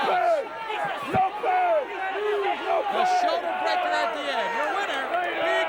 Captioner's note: audience indistinct yelling